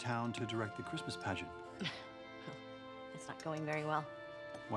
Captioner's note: scoffs